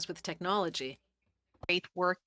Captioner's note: speaking French